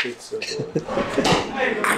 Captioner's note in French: Rires